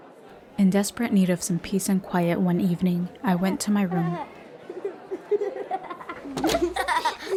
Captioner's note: laughter